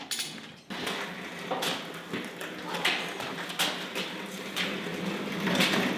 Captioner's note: heavy wheels rolling